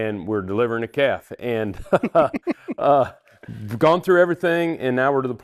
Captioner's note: laughing